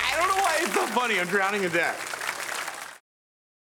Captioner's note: audience applauding